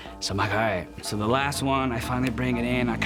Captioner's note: scoffs